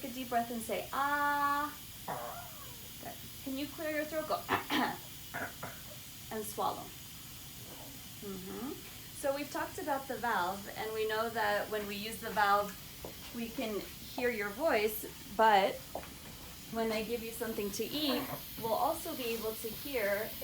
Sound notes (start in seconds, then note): 5.3 coughs